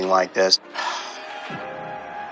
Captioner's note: sighshs